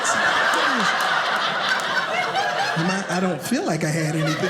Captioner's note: audience laughing